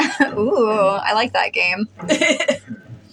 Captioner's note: chortle; laugh